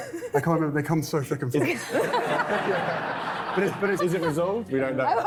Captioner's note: laughing